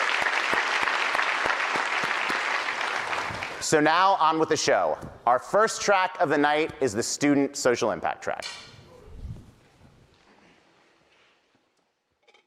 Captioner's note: applause